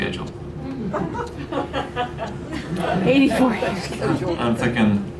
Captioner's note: laughter